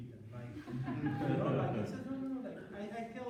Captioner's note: laughter